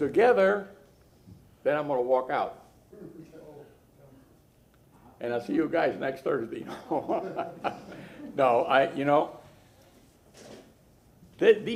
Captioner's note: laughter